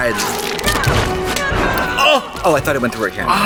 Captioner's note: people screaming